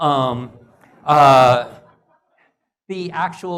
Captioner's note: laugh